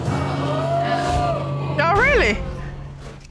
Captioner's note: audience exclaiming